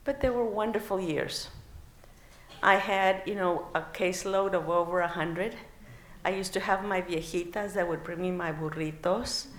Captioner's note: non-english